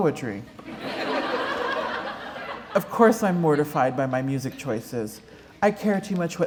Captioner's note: laughter